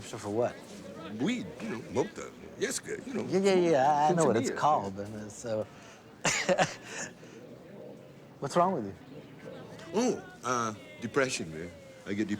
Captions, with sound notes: Prescription for what? Weed. You know, mota, nieska. You know... Yeah, yeah, yeah, yeah. I know what it's called, but so... (laughs) What's wrong with you? Oh, uh, depression, man.